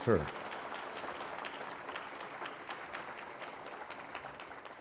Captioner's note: applause